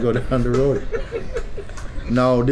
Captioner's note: laughter